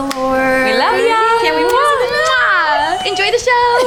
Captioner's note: group kisses